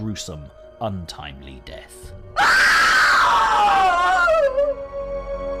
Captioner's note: woman screaming